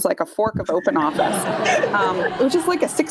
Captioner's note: laughter